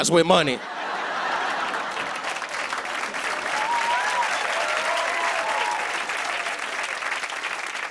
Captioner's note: laughter; cheers and applause